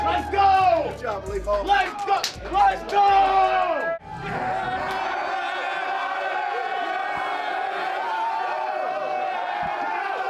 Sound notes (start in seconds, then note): 2.8 players cheering